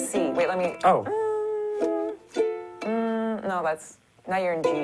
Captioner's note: hums